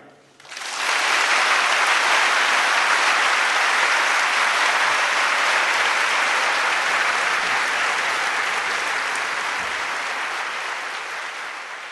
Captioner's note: applause